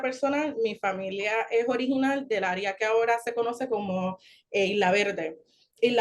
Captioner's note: continues speaking Spanish